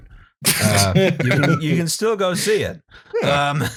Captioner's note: laughter